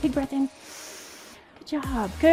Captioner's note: inhales